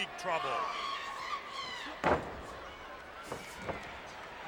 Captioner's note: audience cheers